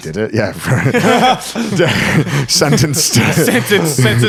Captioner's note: all laughing